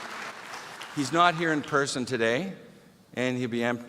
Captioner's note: applause